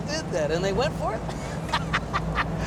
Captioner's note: laughing